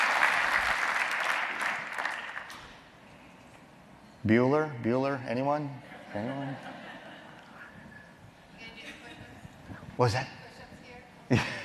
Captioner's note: applause